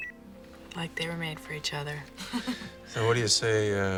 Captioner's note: chuckles